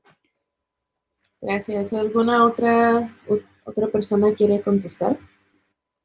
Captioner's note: speaking Spanish